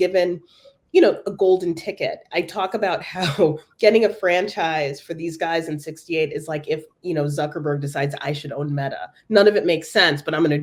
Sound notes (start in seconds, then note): 3.4 laugh